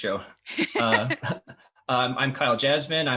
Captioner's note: laughs